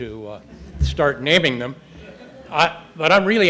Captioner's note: audience chuckles